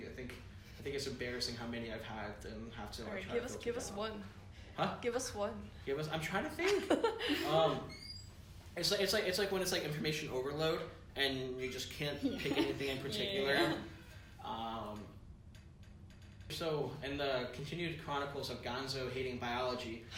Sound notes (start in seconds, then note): 6.6 laughter; 12.2 laughter